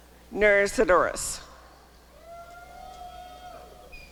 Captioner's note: applause and cheering